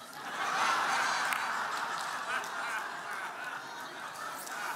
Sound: audience laughing

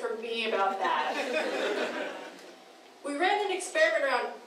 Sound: laughing

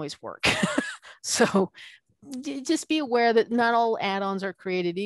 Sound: laughing

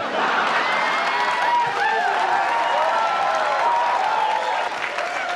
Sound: audience laughs and applauds

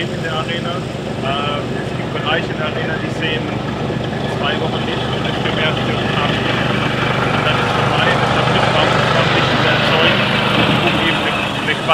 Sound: engine noise

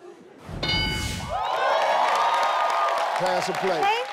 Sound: bell chiming; audience cheering

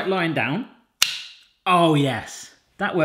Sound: snap

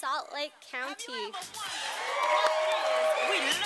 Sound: cheers from the audience

